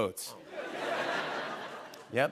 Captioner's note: laughter